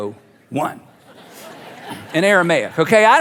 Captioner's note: congregation laughing